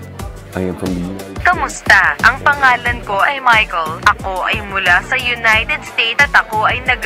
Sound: speaking foreign language

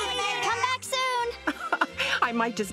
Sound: laughing

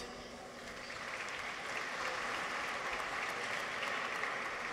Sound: audience applauds

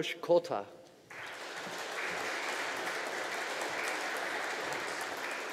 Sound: audience applauding

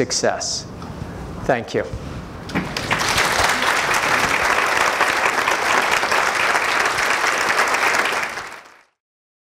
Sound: applause

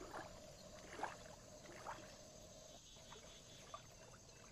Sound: water splashing

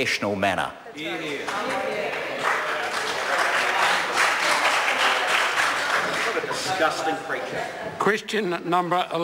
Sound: members applaud

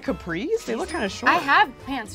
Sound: cash register rings

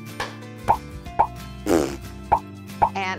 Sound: bronx cheer

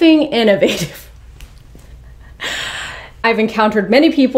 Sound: chuckles

